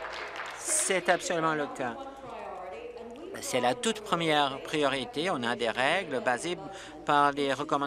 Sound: applause

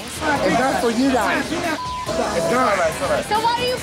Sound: patrons chattering

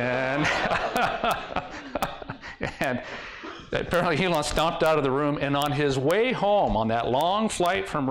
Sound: laughter

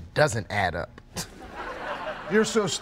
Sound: canned laughter

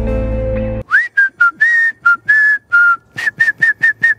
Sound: whistling

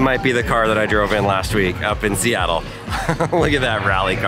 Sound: laughs

